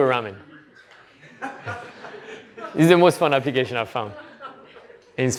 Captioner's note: laughter